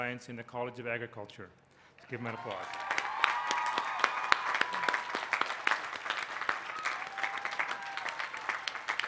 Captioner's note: applause